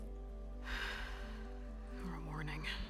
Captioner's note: sigh